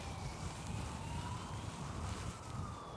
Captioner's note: police sirens